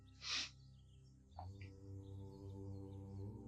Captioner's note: नाक से की जाने वाली आवाज़